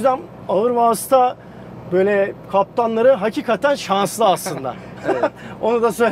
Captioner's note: laughings